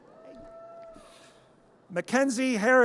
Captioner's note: audience cheers